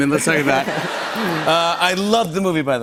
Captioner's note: laughter